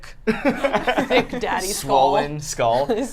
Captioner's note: laugh